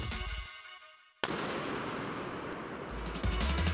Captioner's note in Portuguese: ruído do tiro de largada